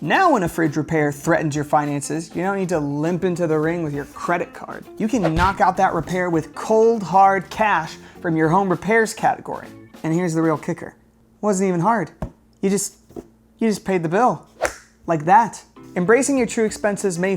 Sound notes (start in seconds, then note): 14.6 snaps finger